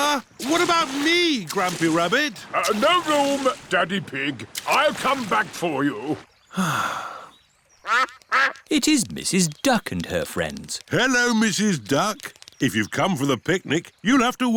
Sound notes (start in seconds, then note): 6.5 sighs; 7.8 quacking